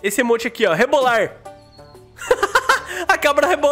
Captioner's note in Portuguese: risos